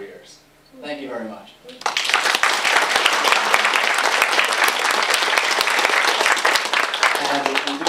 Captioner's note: applause